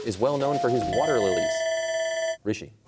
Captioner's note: bell ringing